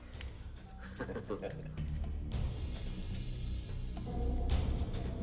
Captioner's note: Gammon chuckles